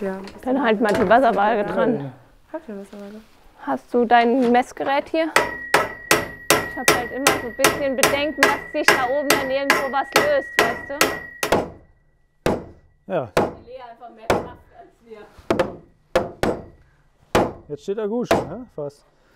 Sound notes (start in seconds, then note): 5.3 knocking